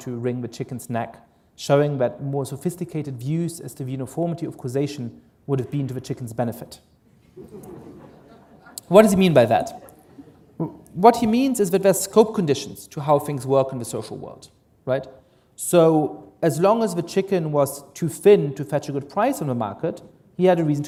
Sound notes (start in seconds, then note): 7.2 laughter